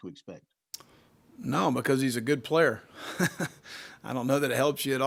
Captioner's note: Will laughs